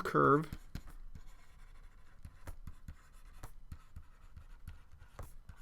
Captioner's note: writing